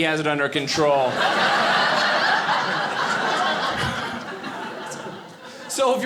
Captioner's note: audience laughing